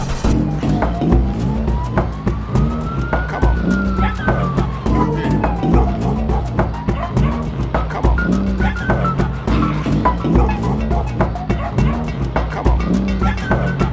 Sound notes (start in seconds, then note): 0.2 sirens; 2.8 dogs barking